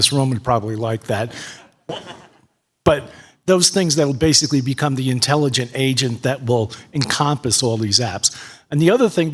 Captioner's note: laughter